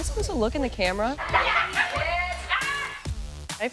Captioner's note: laughter